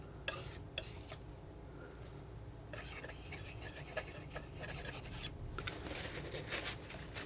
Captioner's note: plastic crinkling